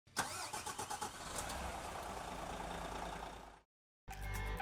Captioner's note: car engine ignites; upbeat music